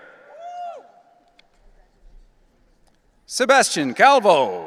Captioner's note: audience cheering